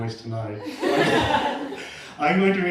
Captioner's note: laughter